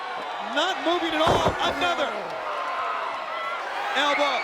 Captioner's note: body thudding; audience cheering